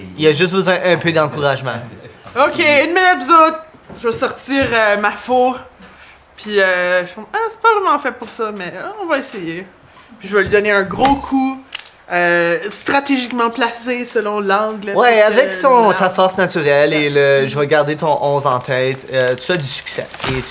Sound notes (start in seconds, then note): 10.9 tree creaking